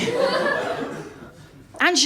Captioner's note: laughter